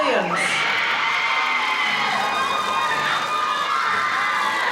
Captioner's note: crowd cheering